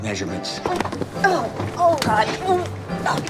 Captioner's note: groaning